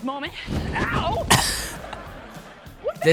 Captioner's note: laughing